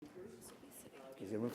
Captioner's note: people chattering